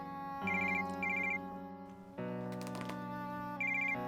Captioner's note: phone ringing